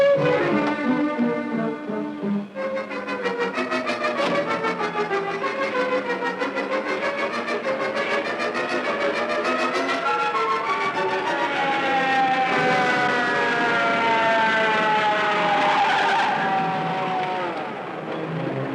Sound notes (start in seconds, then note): 11.9 siren wailing